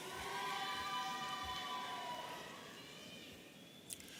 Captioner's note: audience cheering